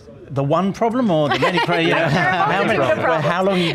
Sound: chuckles; laughing

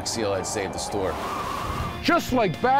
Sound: wind blows

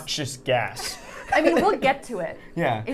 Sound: laughing

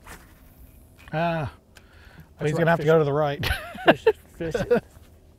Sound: laughing

